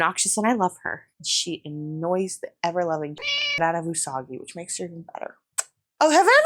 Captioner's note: meow